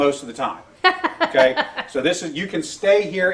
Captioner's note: host laughs